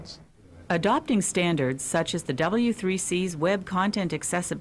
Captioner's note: voiceover